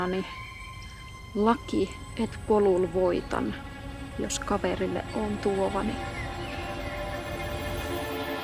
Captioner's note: speaks in Muinein language